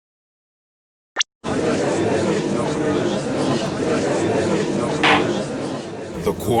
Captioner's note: gallery chattering; slam!